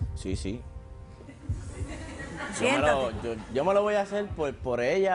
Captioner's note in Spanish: Risas